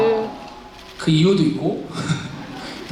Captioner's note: chuckles